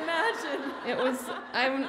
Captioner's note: audience laughs